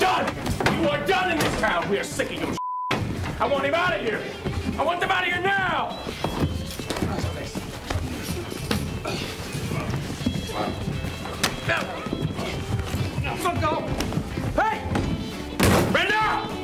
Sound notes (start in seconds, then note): 10.4 grunting; 16.4 upbeat rockabilly music